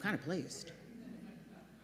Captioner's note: laughter